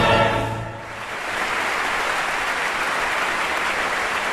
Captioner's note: applause